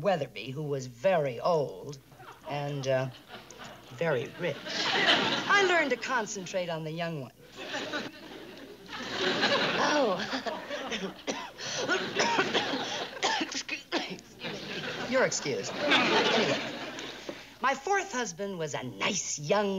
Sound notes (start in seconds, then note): 9.2 coughs